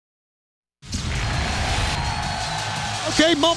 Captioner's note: explosion blasting